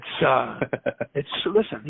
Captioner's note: laughs